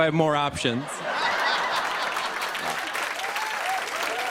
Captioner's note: laughter and applause